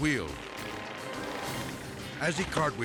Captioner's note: dramatic music; mower buzzing